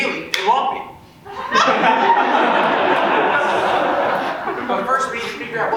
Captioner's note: audience laughs